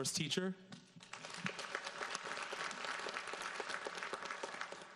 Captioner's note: audience applauds